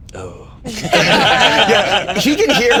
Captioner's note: all laughing